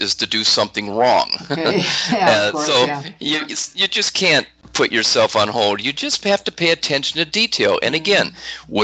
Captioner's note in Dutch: lachen